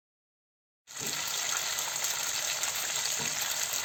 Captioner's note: boiling ghee sound